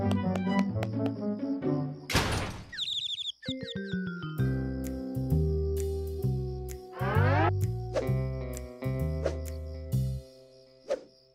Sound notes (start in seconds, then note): 2.6 birds chirping